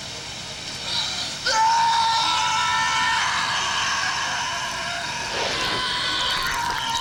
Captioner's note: man shouting; saw buzzing